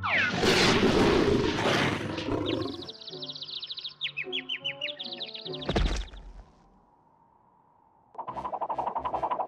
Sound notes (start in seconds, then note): 2.1 birds chirping